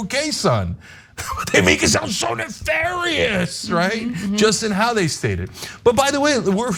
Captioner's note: laugh